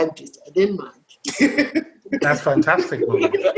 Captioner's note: laughter